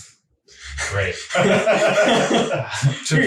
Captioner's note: laughing